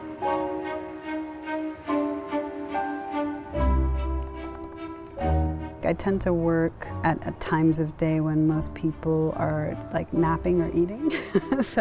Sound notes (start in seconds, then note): 4.2 keyboard keys tapping; 11.1 laughs